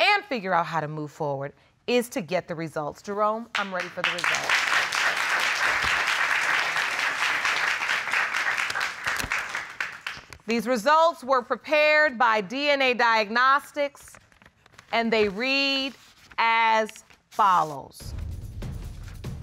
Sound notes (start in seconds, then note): 3.5 applause